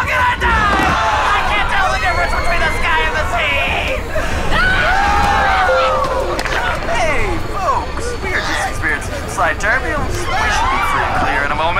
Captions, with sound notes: I CAN'T TELL THE DIFFERENCE BETWEEN THE SKY AND THE SEA ! [all screaming] [ding] Hey, folks, we are just experiencing some slight turbulence but we should be free and clear in a moment.